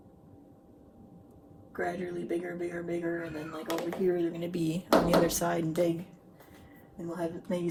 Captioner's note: meowing in background